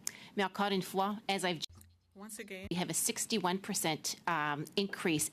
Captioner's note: speaking French